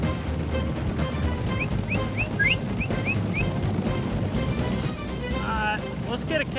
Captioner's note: whistling